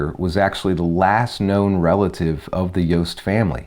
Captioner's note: none